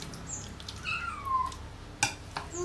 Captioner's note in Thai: เสียงลูกแมวร้อง